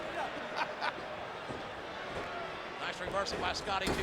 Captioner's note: Jerry chuckling